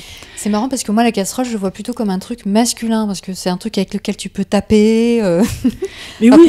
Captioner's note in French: rires